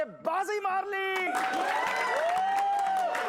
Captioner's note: cheering and applause